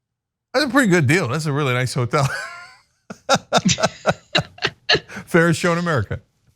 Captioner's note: laugh